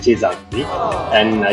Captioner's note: aww